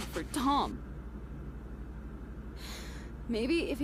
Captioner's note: Emilia takes a breath